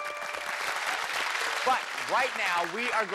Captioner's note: applause